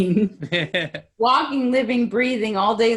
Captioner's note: laughing